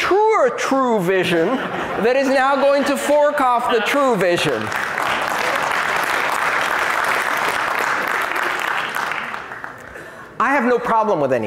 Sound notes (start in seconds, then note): 7.2 laughter; 8.8 applause